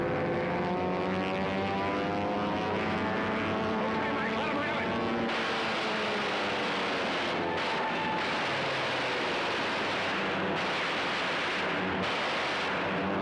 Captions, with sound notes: Okay, Mack. Let them have it. [gunfire]